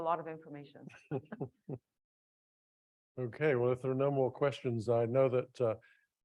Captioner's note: chuckling